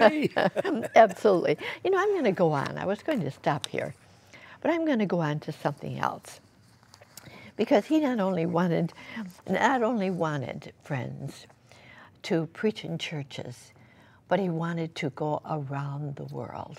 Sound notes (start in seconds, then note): 0.0 laughter